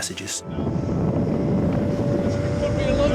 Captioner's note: boat engine revving